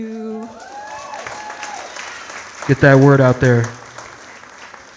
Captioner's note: audience cheering and clapping